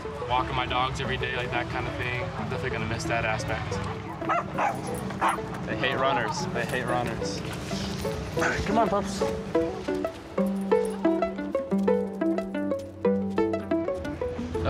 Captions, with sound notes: Walking my dogs every day like that kind of thing. Definitely gonna miss that aspect. (dog barks) They hate runners. They hate runners. Come on bubs. (gentle music)